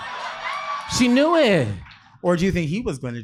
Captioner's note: audience cheering